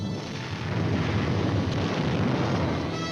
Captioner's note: explosions